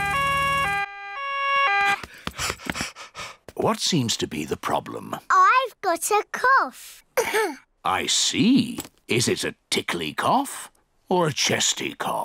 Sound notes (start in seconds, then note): 7.1 coughs